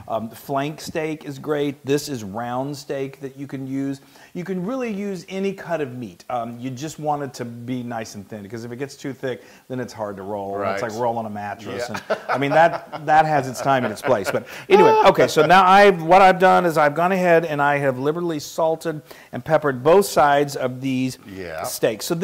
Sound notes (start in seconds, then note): 11.7 laugh